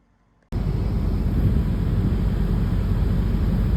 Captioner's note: air hissing